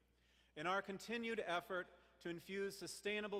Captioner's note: none